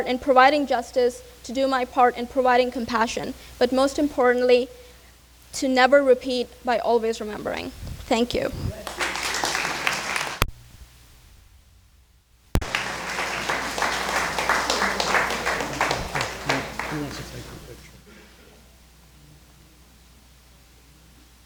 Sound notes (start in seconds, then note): 9.1 crowd clapping